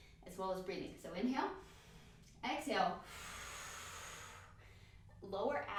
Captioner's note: exhale; inhale